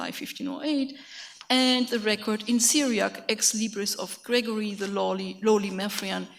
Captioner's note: speaks in a foreign language